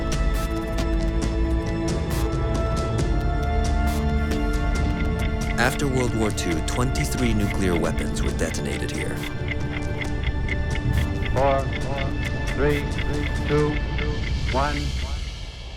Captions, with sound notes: After World War Two, 23 nuclear weapons were detonated here. [clock ticking] [man's voice echoing] Four... three... two.... one...